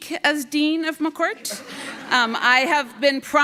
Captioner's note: audience laughing